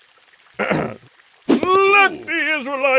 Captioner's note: whispering; Aaron clears throat